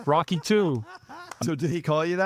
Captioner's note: laughing